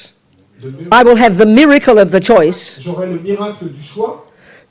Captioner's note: speaking in French